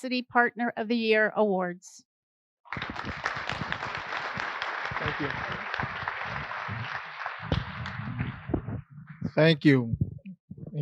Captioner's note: applause